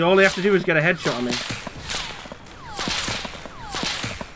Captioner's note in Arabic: طلقات نارية